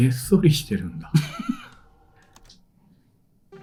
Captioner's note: laughs